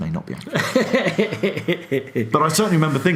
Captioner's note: laughs